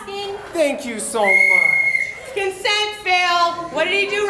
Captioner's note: whistle